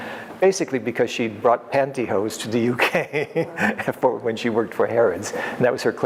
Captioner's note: laughs